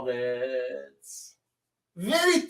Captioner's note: reads the English letter with a mocking tone